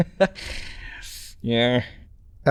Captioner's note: laughs